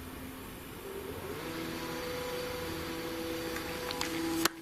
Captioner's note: machine roaring